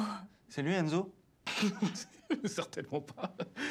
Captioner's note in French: rires